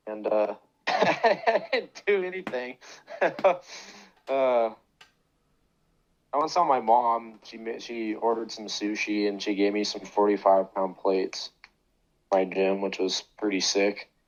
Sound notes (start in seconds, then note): 0.8 laughter